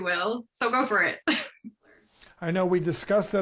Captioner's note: chuckles